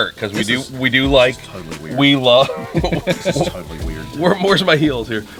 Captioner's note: laughing